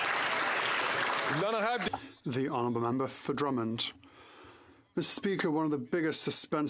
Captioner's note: some Applause